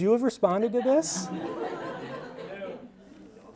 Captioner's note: audience laughing